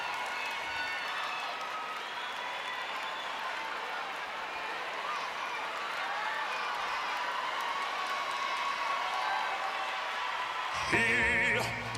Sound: applause

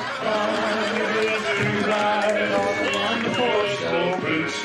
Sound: audience laughs

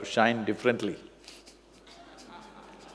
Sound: laughs

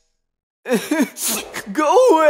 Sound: crying noises

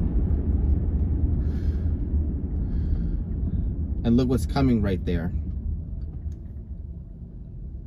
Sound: takes a deep breath

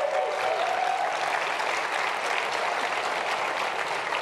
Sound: cheers and applause

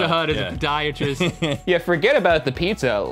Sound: laughing

